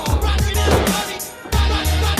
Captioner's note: grunting; thud